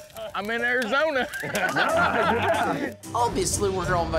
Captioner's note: laughter